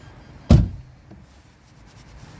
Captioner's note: thud!